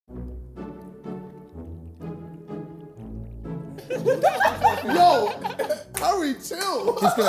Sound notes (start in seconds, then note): 0.1 suspenseful music; 3.7 all laughing